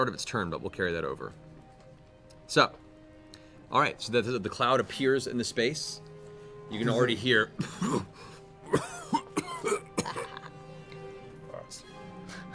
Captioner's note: coughing